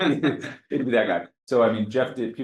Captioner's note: audience Laughter